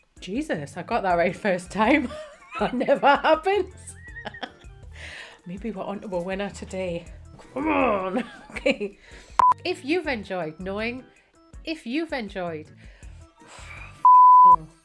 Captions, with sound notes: Jesus, I got that right first time, (chuckles) that never happens. (chuckles) Maybe we're on to a winner today. Come on. Okay. If you've enjoyed knowing, if you've enjoyed. (beep)